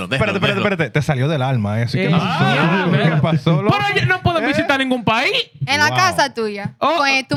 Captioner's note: speaking In Foreign Language